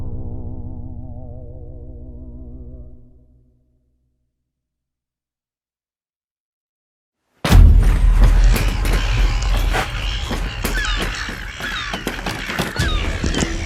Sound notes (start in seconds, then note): 7.4 birds smashing; 9.3 gulls squawking and bashing door